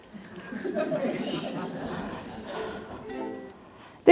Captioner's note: audience laughing; soft ukelele music